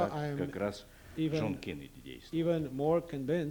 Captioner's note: non-english speech